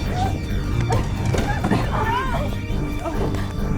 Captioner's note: thunder crashing; screaming